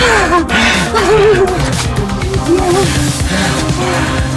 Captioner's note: both laughing